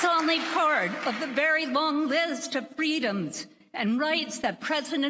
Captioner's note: applause